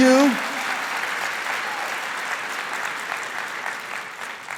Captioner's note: crowd applauding